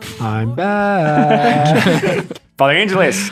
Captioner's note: laughing